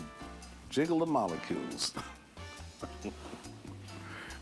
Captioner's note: laughs